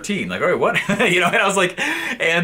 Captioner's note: laughs